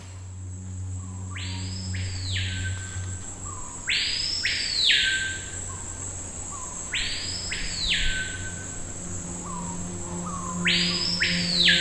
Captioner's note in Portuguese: canto da ave 'capitão do mato'